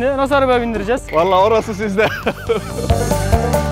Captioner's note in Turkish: Gülüşmeler